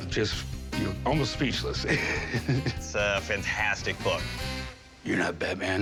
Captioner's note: chuckles